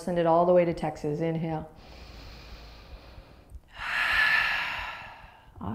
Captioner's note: exhales loudly